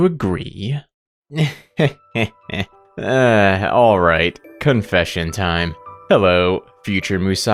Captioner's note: laughs